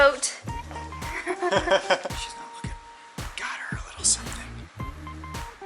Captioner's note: laughter